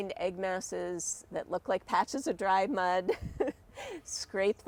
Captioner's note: chuckles